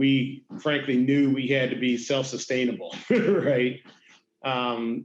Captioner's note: laughs